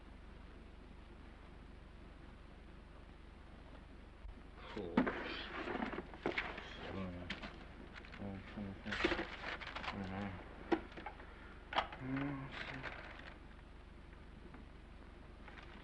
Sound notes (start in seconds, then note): 8.8 page ripping